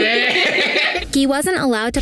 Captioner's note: both laughing